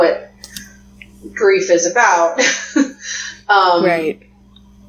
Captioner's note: laughs